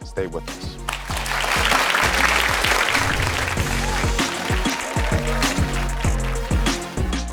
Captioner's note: upbeat music; audience applauding